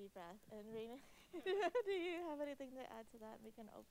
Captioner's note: chuckles